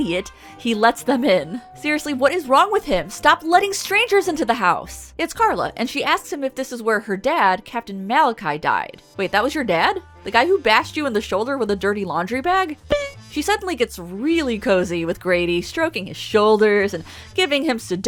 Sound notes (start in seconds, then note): 12.8 boink!